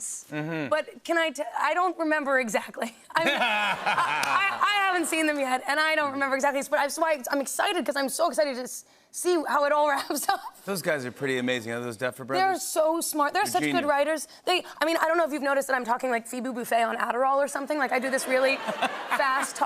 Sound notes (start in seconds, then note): 3.2 laughter